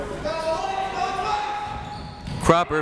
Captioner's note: crowd members shouting